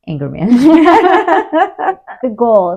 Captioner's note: laughter